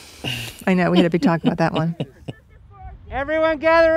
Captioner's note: laughs